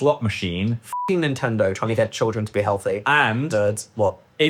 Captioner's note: beep